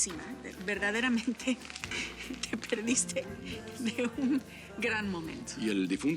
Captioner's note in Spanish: Riendo